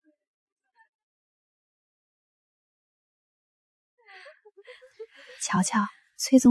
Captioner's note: laughter